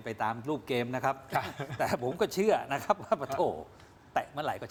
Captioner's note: laughter